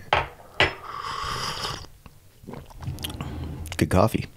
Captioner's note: slurping